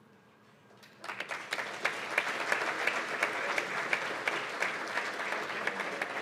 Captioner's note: applause